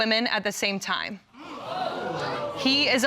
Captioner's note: audience clamoring